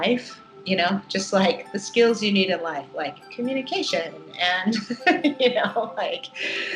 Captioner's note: laughs